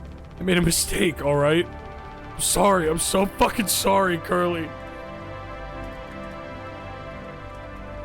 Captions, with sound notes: I made a mistake, all right? I'm sorry! I'm so fucking sorry, Curly! (emotional atmospheric music) (fire crackles)